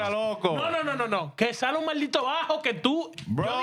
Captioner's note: speaking In Spanish